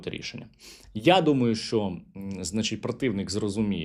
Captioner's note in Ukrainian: сопіння